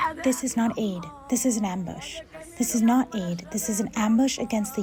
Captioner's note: through translator